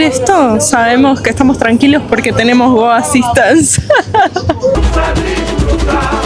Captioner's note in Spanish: risas